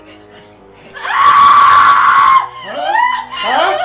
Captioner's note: Ronnie's panicked breathing; sizzling flesh and Ronnie's pained screams